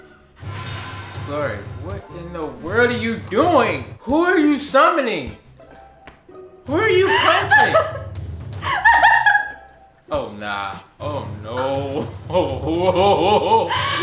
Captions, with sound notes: Glory, what in the world are you doing?! Who are you summoning? Who are you punching? (laughs) Oh, nah. Oh nooooo Ohhhhhh!